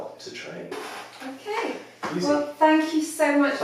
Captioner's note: chair creaks